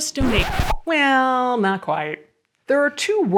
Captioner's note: record scratches